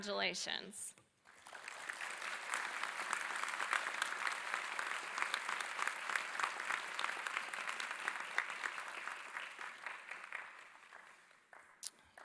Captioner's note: applause